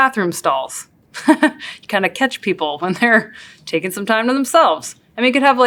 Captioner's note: laugh